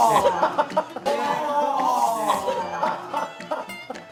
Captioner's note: collective groan